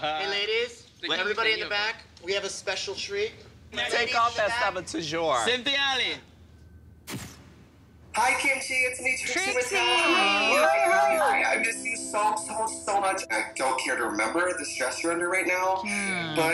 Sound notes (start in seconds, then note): 0.3 voiceover; 6.4 voiceover; 10.6 voiceover